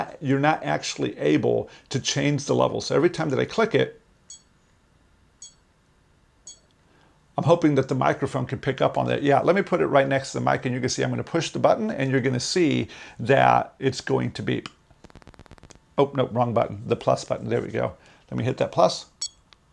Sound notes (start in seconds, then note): 5.4 beep, beep; 19.2 beep